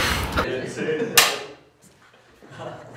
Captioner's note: loud clapperboard